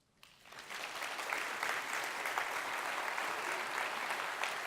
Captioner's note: audience applauds